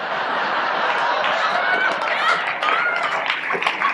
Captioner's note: audience laughs and applauds